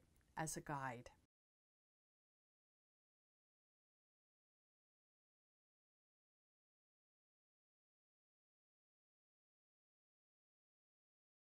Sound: no Sound Present

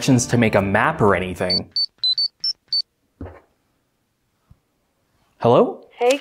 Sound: beeping phone ring

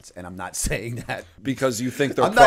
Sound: chuckle

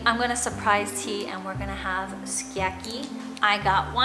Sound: foreign language

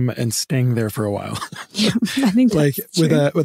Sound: laughing

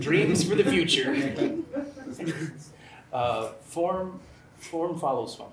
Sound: laughter

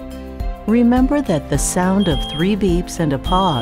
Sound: smoke alarm beeping

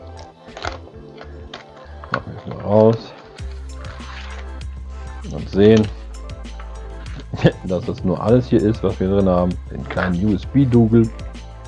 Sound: chuckles

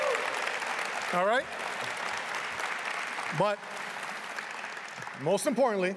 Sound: applause

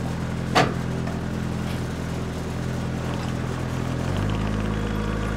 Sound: telehandler engine rumbling

